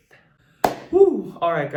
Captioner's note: claps